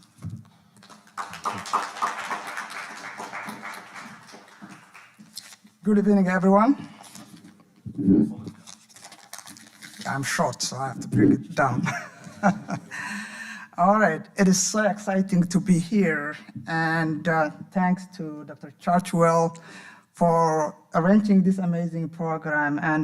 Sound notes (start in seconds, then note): 0.8 audience applauding; 7.8 microphone creaking; 11.8 laughing